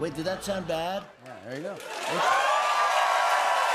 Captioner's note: cheers and applause